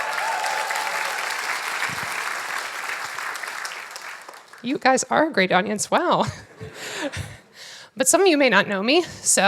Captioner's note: applause